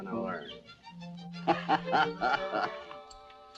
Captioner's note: laughs